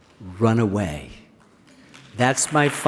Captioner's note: applause